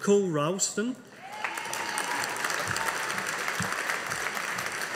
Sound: audience applauding

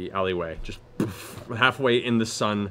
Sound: thuds

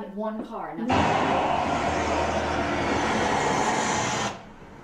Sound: screeching

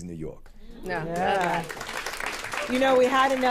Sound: applause

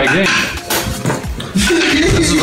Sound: laughing

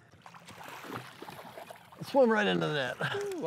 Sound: fish splashes

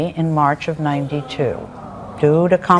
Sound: audience laments

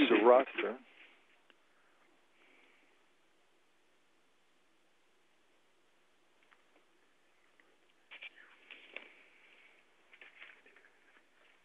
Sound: pause

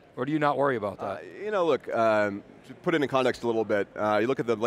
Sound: none

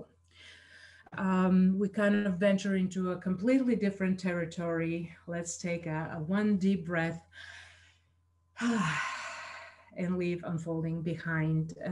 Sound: exhales

